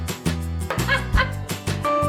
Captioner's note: cheerful music; laughter; cheerful music